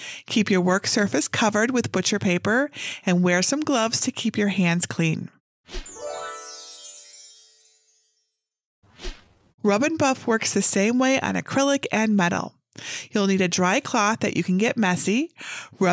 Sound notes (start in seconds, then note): 5.8 twinkling music; 6.0 screen whooshing